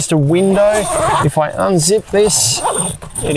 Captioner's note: zip opens